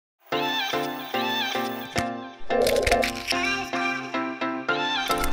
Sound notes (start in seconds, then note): 0.3 upbeat music; 2.1 typing